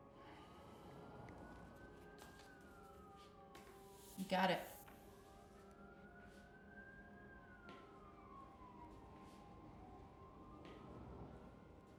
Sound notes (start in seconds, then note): 0.6 sirens blaring; 5.2 sirens continue blaring